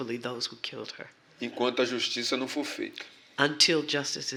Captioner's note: speaking portuguese